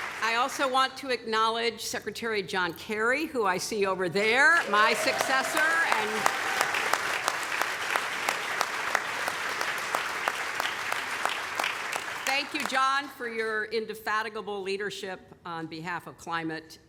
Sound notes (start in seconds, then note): 4.5 applause